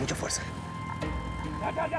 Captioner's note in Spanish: sonido de motores